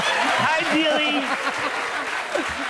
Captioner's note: laughter and applause